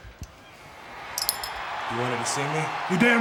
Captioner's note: audience cheers